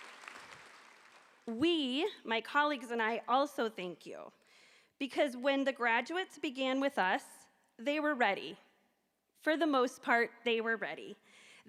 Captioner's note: applause